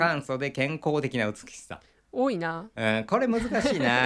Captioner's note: laughs